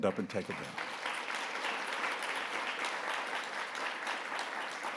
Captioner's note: audience applauding